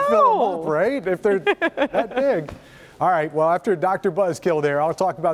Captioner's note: laughter